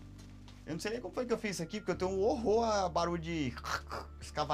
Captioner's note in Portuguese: ruído com a boca